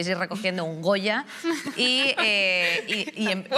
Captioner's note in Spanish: irene ríe